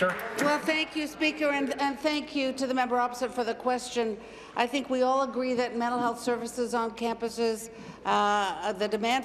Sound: applause

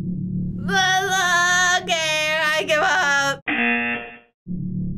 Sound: groans; buzzer

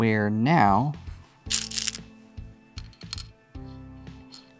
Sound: stones rattling

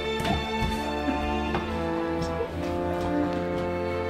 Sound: off-camera laughter

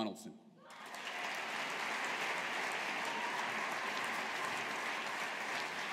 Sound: audience applauding

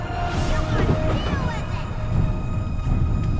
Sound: far away voice, coming from a young child

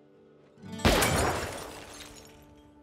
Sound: gunshot

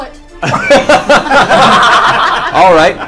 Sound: all laugh

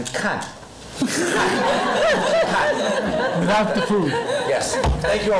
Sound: foreign language; laughing

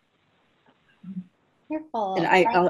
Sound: speaking away from mic

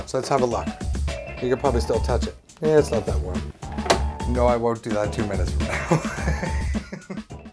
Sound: laughs

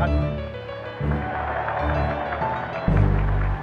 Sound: applause

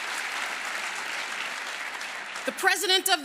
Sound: applause

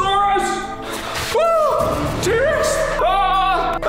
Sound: screams

